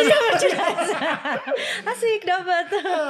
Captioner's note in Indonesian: tertawa